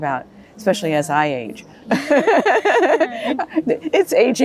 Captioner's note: laughs